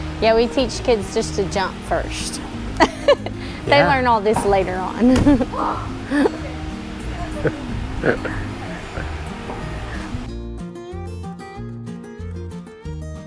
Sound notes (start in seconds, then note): 5.0 laughs; 5.1 feet thud; 5.5 exhales; 8.0 laughs; 10.5 bright music